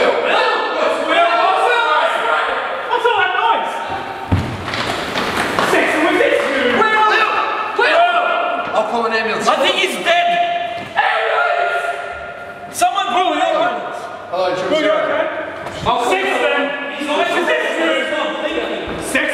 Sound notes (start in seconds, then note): 0.0 people yelling frantically